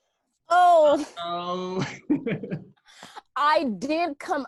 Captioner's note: laughs